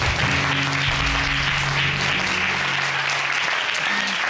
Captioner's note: audience applauding